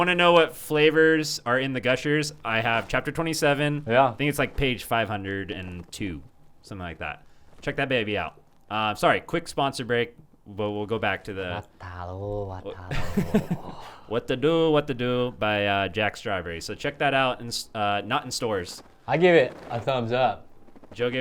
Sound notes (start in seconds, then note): 11.6 laughs